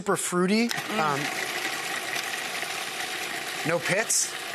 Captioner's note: food processor buzzing